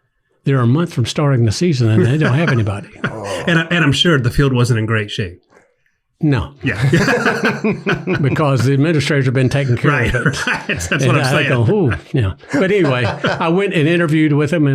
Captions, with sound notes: "They're a month from starting the season, "and they don't have anybody." - And I'm sure the field wasn't in great shape. - No. (everyone laughs) Because the administrators have been taken care of it. - Right. (laughs) That's what I'm saying. - Ooh, yeah. But anyway, I went and interviewed with them,